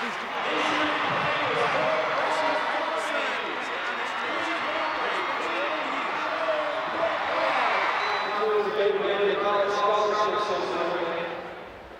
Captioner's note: audience cheers; announcer talks over loud speaker